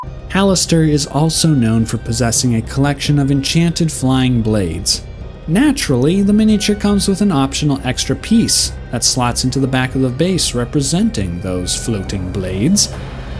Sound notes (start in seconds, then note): none